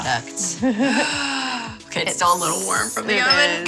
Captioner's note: gasps